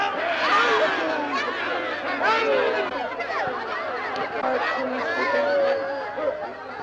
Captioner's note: group chattering; laughing